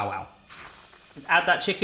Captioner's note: oil sizzling